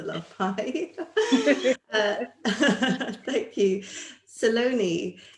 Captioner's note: laughter